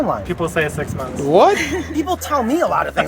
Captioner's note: laughing